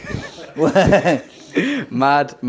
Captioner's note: laughing